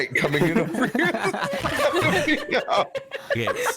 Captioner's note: time zone giggles